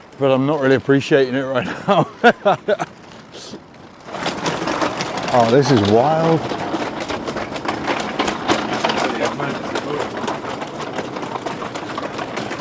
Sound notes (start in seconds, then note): 1.5 laughs; 6.7 luggage rattling